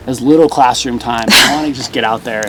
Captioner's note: laughs